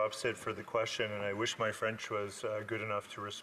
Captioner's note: speaking French